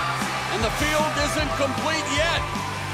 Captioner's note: cheers and applause